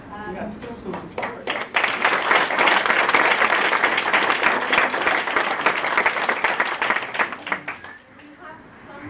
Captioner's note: applause